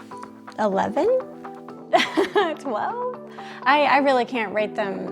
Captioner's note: laughs